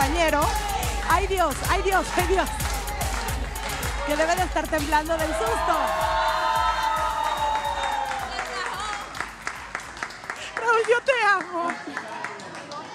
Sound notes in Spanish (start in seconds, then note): 5.5 Aplausos; 12.1 Ríe